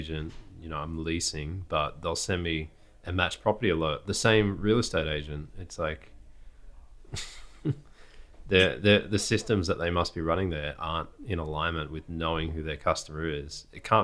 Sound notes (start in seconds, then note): 7.1 laughs